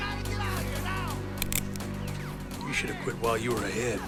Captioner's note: gun clicks